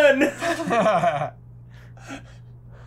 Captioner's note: laughter